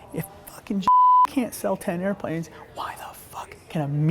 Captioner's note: beep